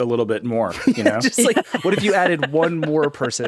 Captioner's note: laughing